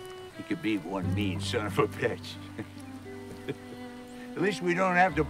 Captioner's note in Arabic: يضحك